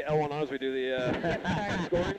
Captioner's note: laughs